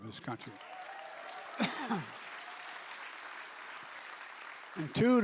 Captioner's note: applause